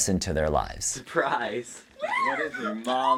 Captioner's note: laughing